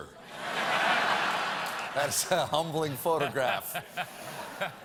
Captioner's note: laughter